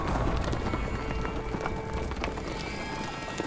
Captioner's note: thunderous galloping